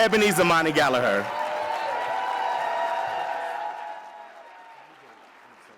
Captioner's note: audience cheers and applauds